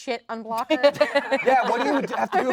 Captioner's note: all laugh